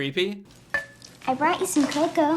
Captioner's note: clinking